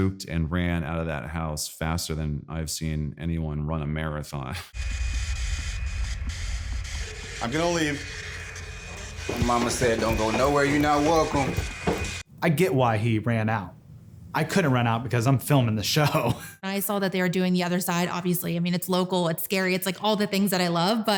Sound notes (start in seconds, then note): 4.8 machine humming; 16.3 laughs